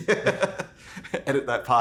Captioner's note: laughs